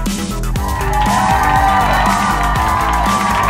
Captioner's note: crowd cheering